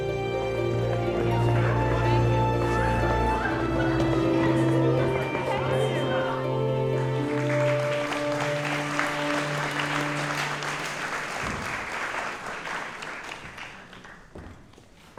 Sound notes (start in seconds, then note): 0.6 background chattering; 7.3 audience applauding